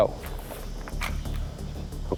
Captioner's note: clicking